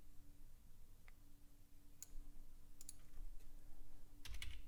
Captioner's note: clicking